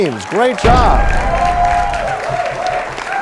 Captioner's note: crashing sound; applause